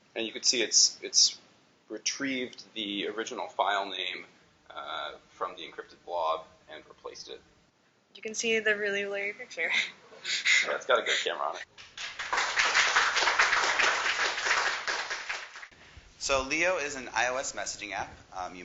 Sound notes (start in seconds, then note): 11.8 applause